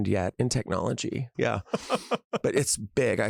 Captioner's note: Delta laughs